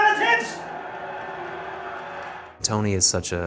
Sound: crowd booing

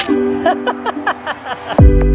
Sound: laughs; chill music

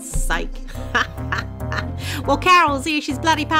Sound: laughs

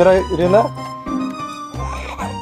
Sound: hmmmm

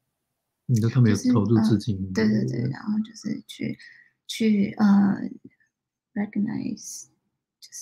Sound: speaks mandarin

